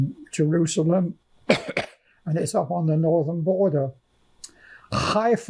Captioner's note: coughing